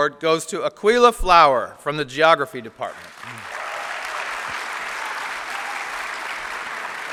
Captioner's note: applause